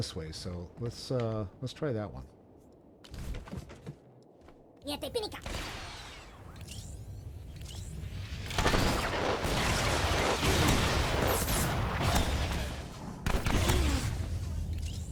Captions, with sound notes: way, so let's try that one. (speaking foreign language) (gun firing)